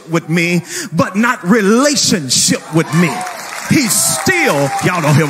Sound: people cheering

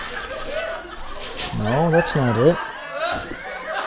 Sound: laughter

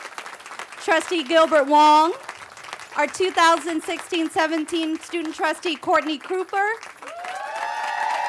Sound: applause

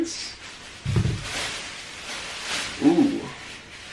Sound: plastic crinkling

